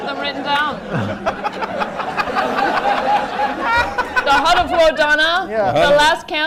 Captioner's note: laughter